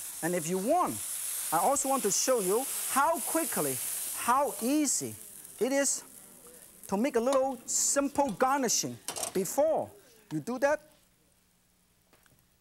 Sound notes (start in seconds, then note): none